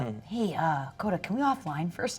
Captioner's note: none